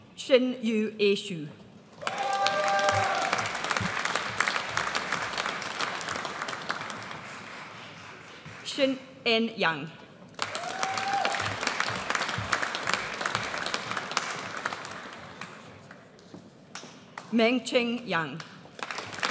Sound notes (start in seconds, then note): 2.0 audience cheers; 12.4 audience cheers; 18.8 audience applauds